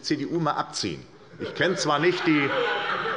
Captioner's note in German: Heiterkeit und Beifall bei der SPD